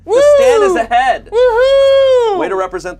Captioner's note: cheers